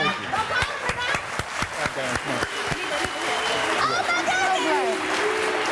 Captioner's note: crowd clapping and booing